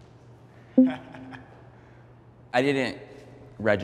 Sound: chuckles

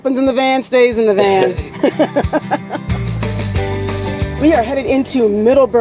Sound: both laugh

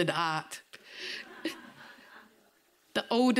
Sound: audience members laughing

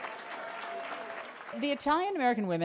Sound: applause

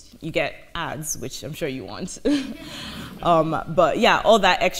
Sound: laughs

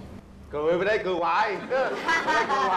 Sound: laughters

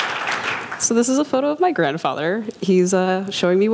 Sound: clapping

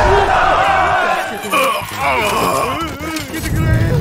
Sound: crying from the pain

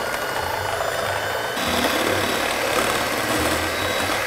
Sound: mixer whirring

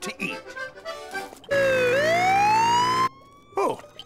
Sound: sirens blaring

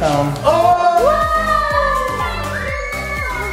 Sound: all cheering

